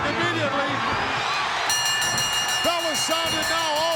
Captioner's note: bell ringing